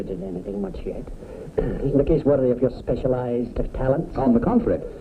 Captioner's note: ahem